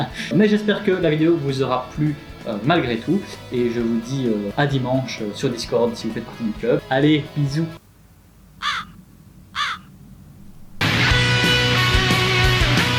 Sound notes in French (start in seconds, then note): 7.8 croassements, le bruit de la solitude